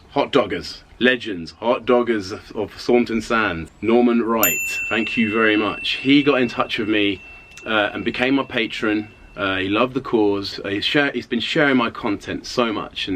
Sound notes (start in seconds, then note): 4.4 ding